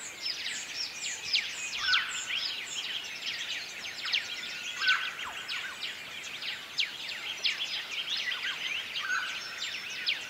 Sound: birds chirping

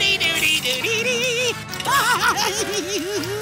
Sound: laughing

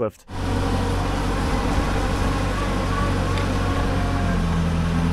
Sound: machine whirring

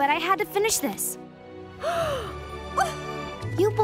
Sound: gasps

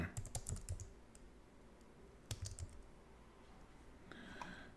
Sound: keyboard clicking; inhales

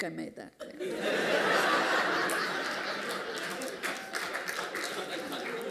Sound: laughter

